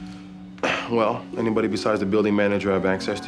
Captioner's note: clears throat